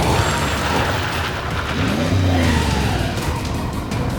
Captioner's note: tires screeching